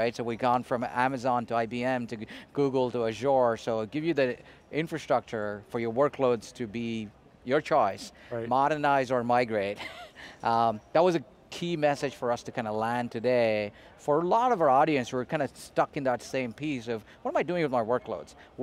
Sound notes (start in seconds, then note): 9.7 chuckles